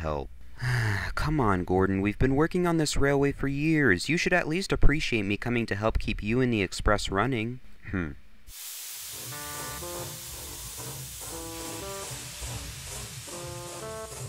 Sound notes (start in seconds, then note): 0.5 sigh; 8.5 steam wheeshing